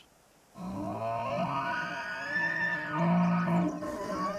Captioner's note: bellows